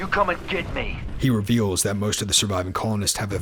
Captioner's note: voiceover